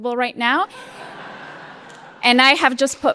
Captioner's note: laughter